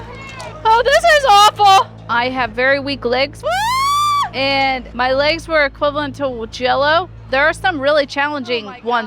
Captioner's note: screaming